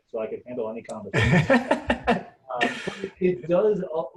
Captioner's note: laughing